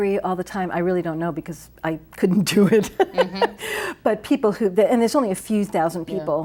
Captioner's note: laughs